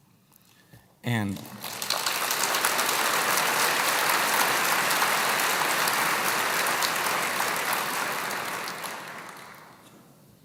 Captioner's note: applause